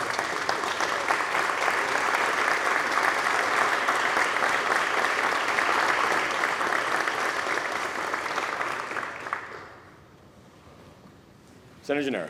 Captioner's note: applause